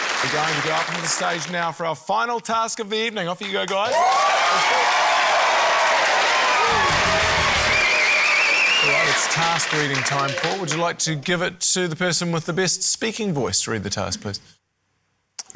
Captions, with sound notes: - We're going to go up on to the stage now for our final task of the evening. Off you go, guys. (CHEERING, APPLAUSE) - All right, it's task-reading time, Paul. Would you like to give it to the person with the best speaking voice to read the task, please?